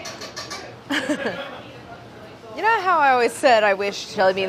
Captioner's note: laughs